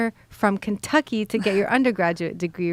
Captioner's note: giggles